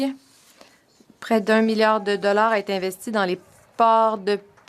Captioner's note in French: voix de l'interprète